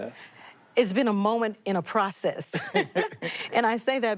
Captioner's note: both laughing